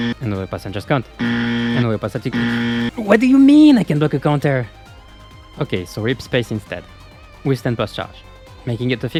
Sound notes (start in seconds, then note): 0.0 buzz; 2.3 buzz